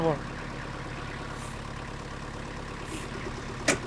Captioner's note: engine revving